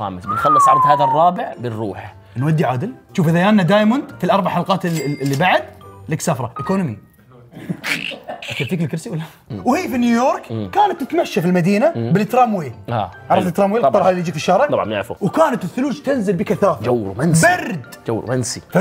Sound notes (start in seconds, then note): 7.5 laughs